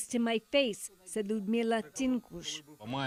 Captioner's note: speaking alternate language